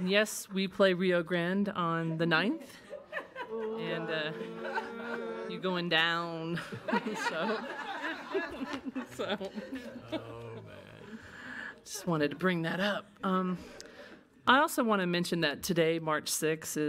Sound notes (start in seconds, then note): 3.4 attendees groaning; 7.1 everyone laughing